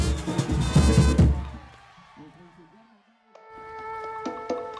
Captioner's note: people cheering; peaceful music